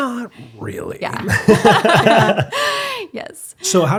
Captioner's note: both laughing